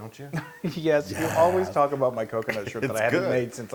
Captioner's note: laugh